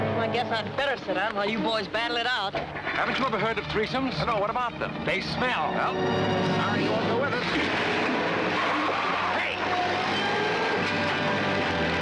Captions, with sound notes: Well, I guess I better sit out, while you boys battle it out. Haven't you ever heard of threesomes? No. What about them? - They smell. - Well.. [indistinct chatter] Hey!